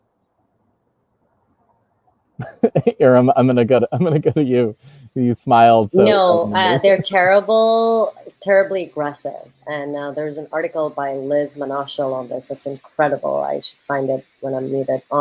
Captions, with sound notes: (laughs) Iram, I'm gonna go to you, You smiled so knowingly. - No, they're terrible, terribly aggressive. And now there's an article by Liz Manashil on this that's incredible, I should find it when I'm muted.